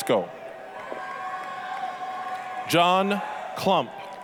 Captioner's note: applause, cheering